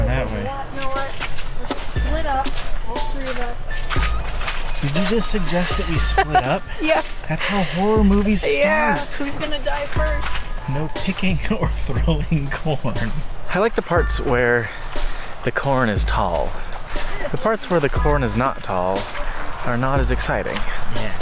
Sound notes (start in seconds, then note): 6.9 laughing; 11.3 chuckling